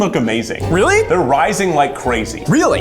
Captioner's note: beeps